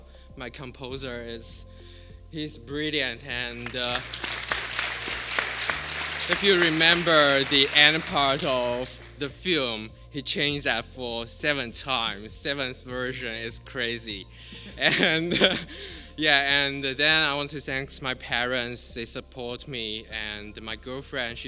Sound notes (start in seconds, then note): 3.5 applause; 14.4 laughter